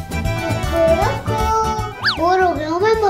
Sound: chicken sound

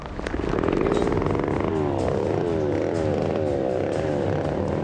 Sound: chainsaw buzzing; dramatic music

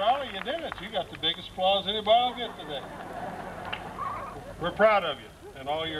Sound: laughter

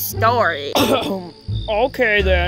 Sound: coughs

